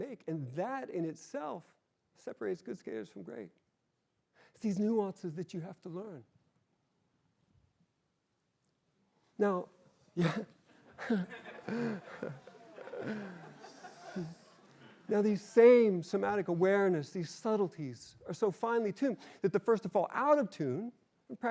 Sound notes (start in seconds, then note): 10.2 laughing; 10.7 laughter